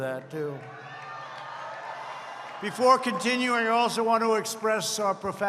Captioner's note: applause